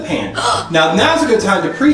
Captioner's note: gasps